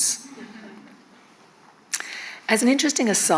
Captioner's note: attendees laughing